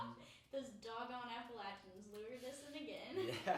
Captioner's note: laughing